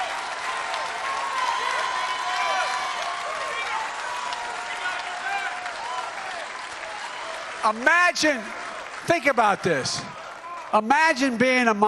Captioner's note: cheering